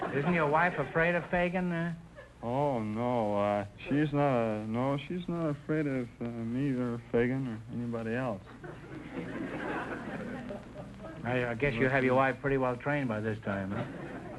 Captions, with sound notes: Isn't your wife afraid of Feagan? - Oh, no... no, she's not afraid of neither Feagan or anybody else. (audience chuckling) - I guess you have your wife pretty well-trained by this time, huh?